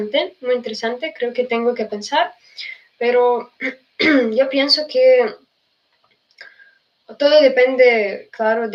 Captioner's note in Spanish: carraspeo